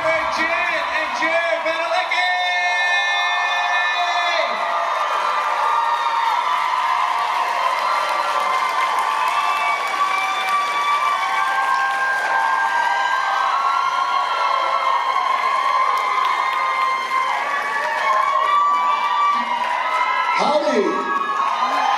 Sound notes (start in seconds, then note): 4.6 applause